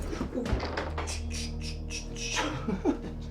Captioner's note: slamming; man laughing